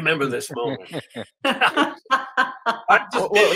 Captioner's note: laughing